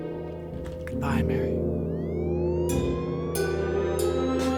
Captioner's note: siren wailing